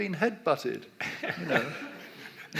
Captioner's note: audience laughs